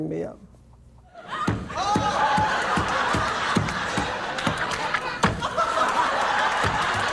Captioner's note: audience laughing; fists pounding